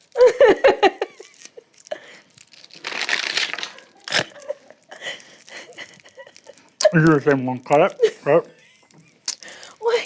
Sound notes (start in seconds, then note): 0.3 laugh; 3.0 lollipops clattering; 3.0 snorts